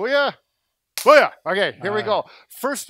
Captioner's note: sticks clacking